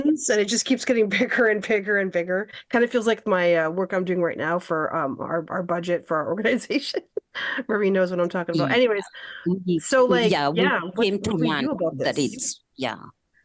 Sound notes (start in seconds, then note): 6.7 laughter